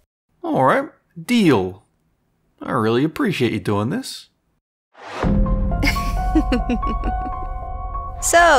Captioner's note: sinister chuckle